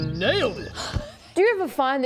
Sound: gasp

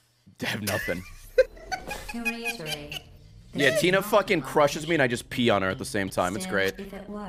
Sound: giggles

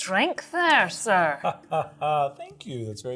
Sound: chuckles

